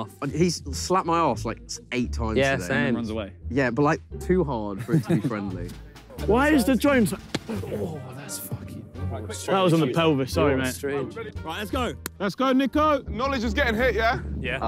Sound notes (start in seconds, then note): 4.8 laughs; 7.4 player grunts